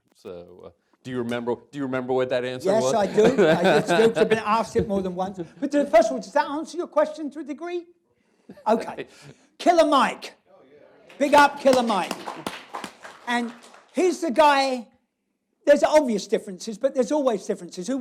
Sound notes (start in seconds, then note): 2.7 laughs